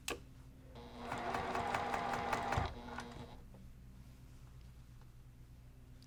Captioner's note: sewing machine humming